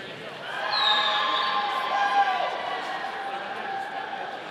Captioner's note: audience cheering